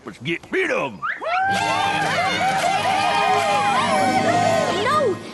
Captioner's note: whooping cheers